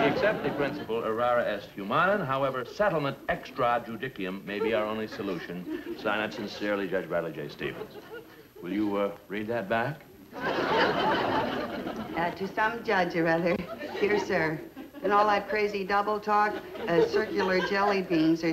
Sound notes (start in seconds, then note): 10.3 audience laughs